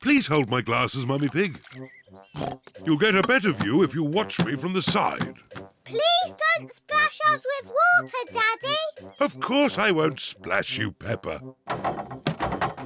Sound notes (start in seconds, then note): 2.3 oinks